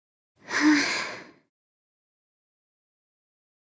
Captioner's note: exhales